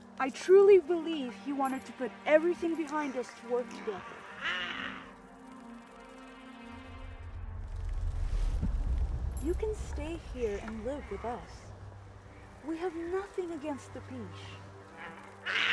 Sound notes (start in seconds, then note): 3.6 Giree snarls